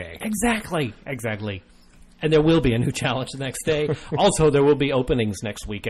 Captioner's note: laughs